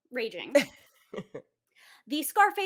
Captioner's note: laughs